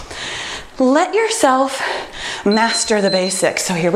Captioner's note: timer beeps